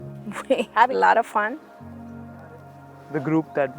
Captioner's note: chuckling